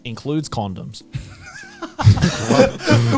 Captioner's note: laughing